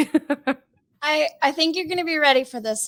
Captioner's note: laughing